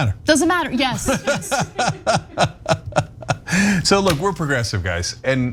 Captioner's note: laugh